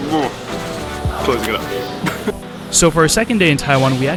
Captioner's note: laughs